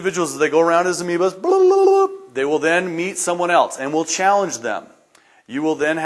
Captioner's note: tongue trilling noise